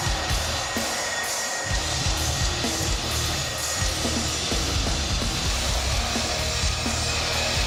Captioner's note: crowd cheering